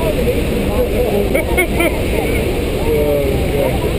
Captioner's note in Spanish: Me ríe de nuevo